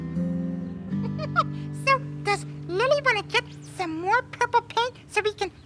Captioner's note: laughs